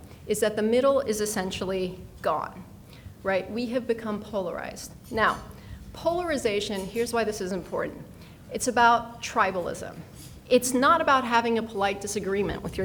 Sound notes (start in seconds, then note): none